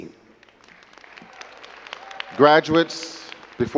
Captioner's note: crowd clapping